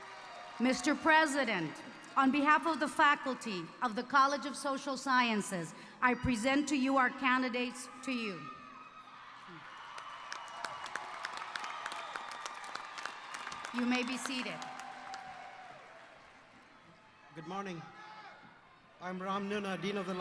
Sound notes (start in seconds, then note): 9.4 applause